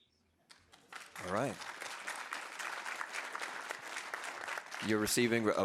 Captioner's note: audience applauding